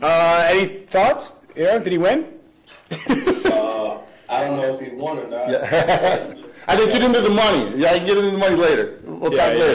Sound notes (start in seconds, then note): 5.6 laughs